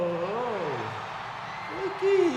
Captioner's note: audience cheers